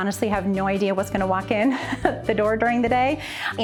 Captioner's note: laughs